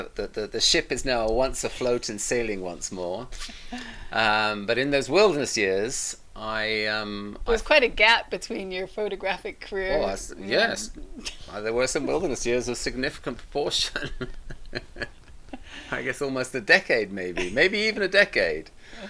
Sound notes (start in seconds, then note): 13.9 both laughing